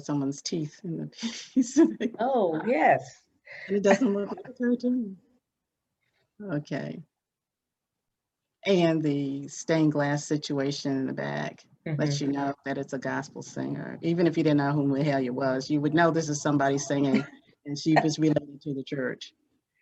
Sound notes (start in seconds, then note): 3.8 laughs